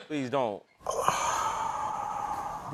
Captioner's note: sighing